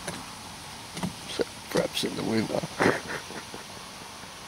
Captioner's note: laughing